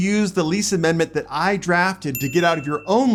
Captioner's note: chime sound